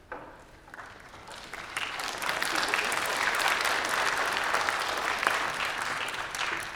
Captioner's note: applause